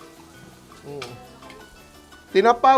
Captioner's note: sizzles